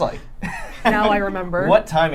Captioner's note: laughing